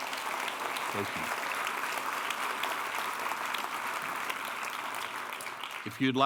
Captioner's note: applause